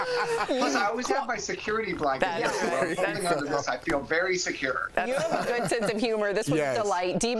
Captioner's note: laughter